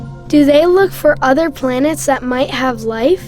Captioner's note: voiceover